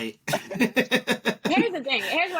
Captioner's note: laughing